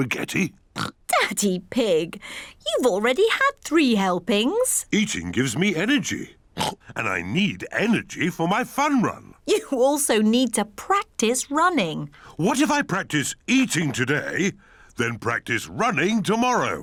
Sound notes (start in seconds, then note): 0.7 oinks; 6.6 oinks